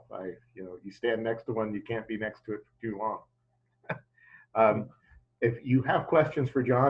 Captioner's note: laughs